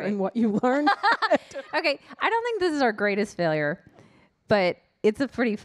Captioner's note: laughs